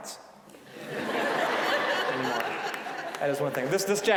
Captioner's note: audience laughing